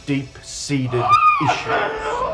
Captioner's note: wails